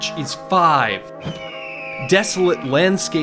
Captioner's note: hawk crying out